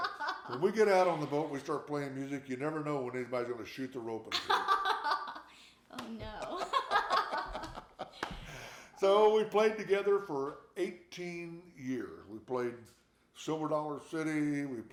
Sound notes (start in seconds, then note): 6.3 both laughing